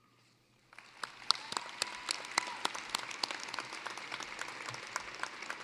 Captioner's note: applause